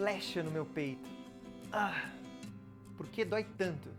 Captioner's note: sound that humans do when they get hurt